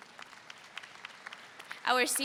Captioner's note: audience applauds